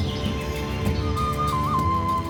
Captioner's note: birds chirping; flute playing